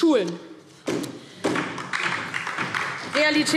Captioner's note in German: Beifall DIE LINKE und vereinzelt SPD